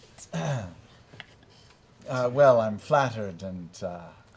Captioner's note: laughing